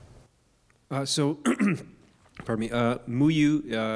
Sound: clears throat

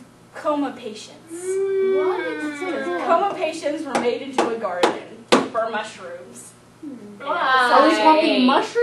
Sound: audience commentary

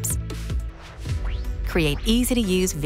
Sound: upbeat music continues; graphics whooshing

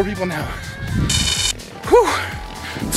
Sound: buzzer buzzes

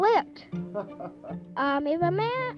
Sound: laughs

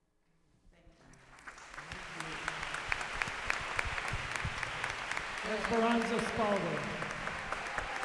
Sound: applause

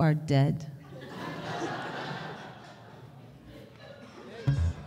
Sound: audience laughter

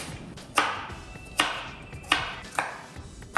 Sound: knife tapping

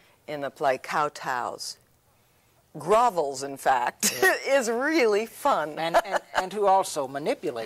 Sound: laughs

